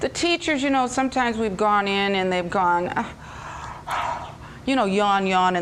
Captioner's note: yawn